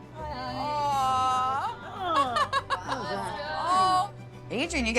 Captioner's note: laughter